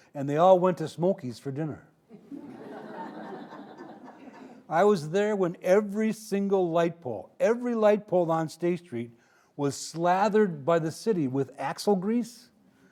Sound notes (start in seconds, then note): 2.1 audience laughing